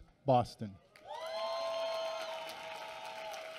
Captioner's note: applause